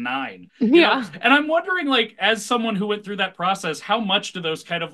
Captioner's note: laughs